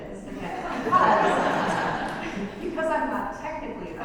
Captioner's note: audience laughs